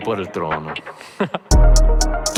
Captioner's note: laughing